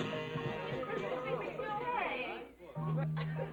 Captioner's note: all chattering